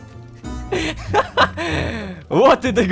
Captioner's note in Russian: Кх-кх.. Кха-ха! Кх-х